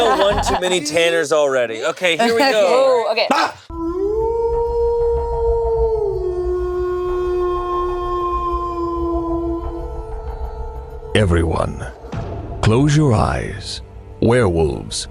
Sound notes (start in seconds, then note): 3.2 screams; 4.3 werewolf howling